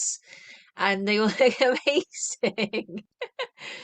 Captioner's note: laughter